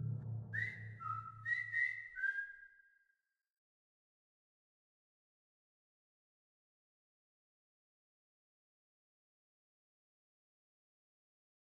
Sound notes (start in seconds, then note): 0.1 whistling